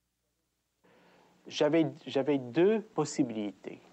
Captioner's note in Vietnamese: Tiếng Pháp